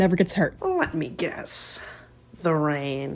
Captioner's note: none